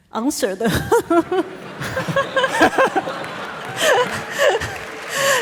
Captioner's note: audience laughing